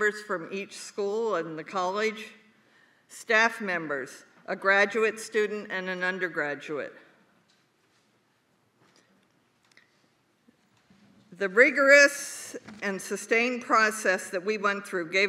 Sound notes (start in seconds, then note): none